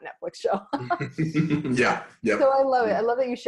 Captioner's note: laughing